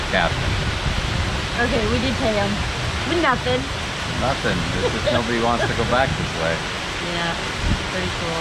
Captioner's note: laughing